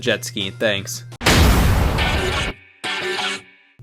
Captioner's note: object smashes; dance music